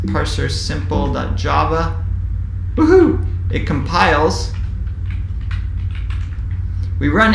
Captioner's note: keyboard typing sound